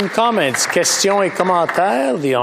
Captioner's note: some Applause